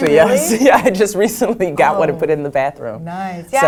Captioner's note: laugh